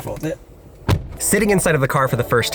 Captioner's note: door clunking